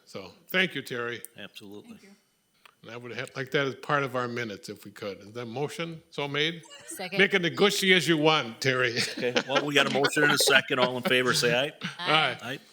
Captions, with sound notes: so thank you, Terry. Absolutely. Thank you. I would like that as part of our minutes, if we could. Is that motion so made? Second. Make it as gushy as you want, Terry. (laughing) Okay, well we got a motion and a second. All in favor say aye. Aye. Aye.